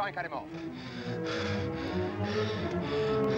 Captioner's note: panting